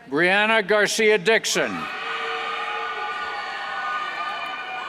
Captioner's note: cheers